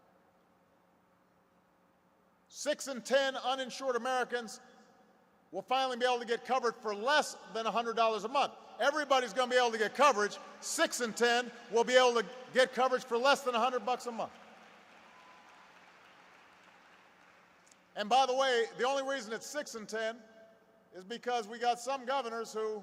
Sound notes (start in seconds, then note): 17.2 applause